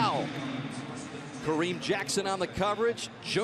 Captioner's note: pa announcement